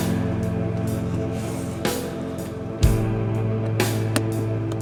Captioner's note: Addison shakily gasps